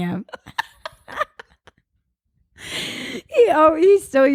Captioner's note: both laugh